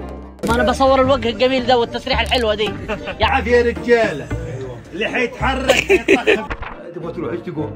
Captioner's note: speaking in Egyptian dialect